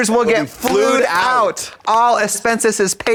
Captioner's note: blonde Women in unison